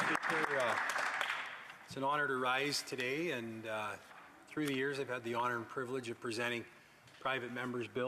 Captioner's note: some Applause